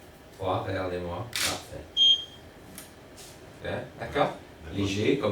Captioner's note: camera clicking